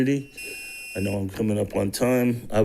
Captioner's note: tone beeps